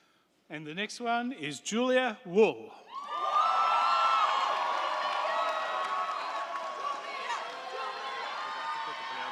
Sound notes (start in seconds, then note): 2.9 crowd cheering; 3.1 crowd clapping